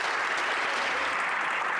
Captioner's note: some Applause